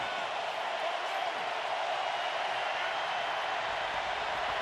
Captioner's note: crowd cheering